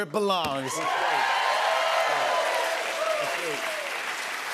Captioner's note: cheers and applause